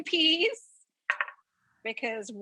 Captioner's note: bowl clinks on counter